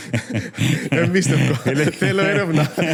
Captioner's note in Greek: γέλιο